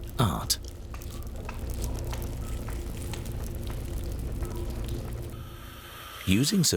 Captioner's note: sound of tools working